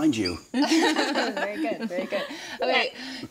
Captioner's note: group laughs